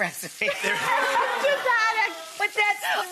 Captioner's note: audience makes a disgusted sound